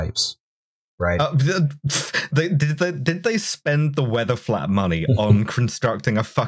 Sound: stuttering in rage

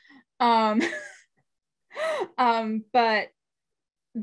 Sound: laughs

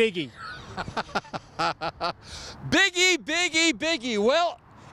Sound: laughing

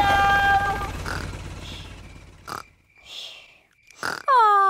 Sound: baby alexander snoring

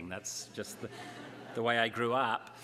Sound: laughter

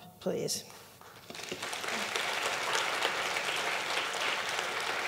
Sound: audience clapping

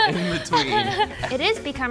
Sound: laughter

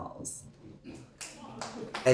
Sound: applause

